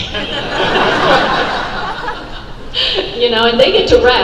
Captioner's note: audience laugh